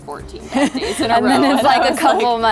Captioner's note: laughs